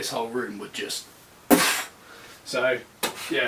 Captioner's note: poof